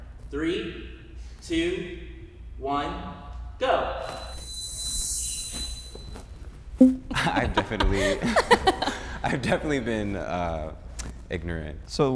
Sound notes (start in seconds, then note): 3.8 chiming music; 7.1 uncomfortable laughter